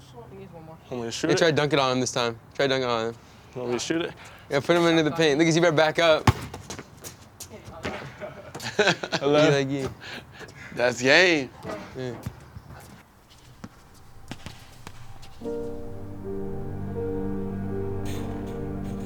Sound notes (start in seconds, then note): 6.2 ball thunking; 7.9 laughing; 13.8 slow music